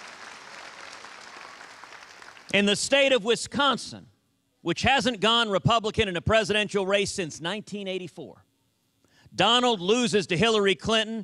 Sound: cheers and applause

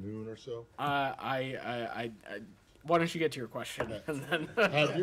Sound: laughter

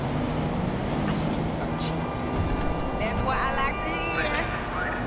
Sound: two women having a conversation

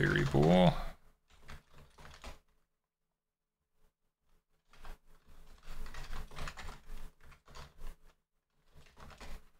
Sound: typing

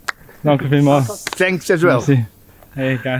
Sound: speaking foreign language

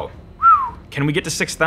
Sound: whistles

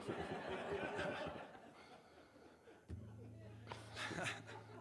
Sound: audience laughs

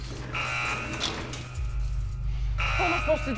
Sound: gate rattles

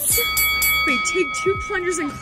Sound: bell dings

